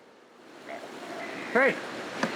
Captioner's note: groaning